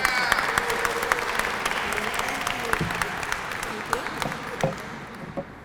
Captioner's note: applause